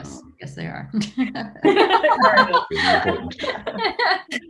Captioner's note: group laughing